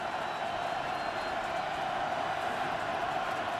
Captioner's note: whistle